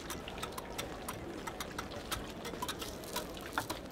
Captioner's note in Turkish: Yemek hazırlama sesleri